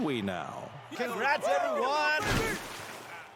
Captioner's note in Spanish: gente aplaudiendo